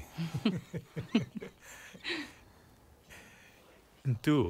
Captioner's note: risas